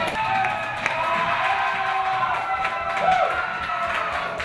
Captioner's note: people Cheering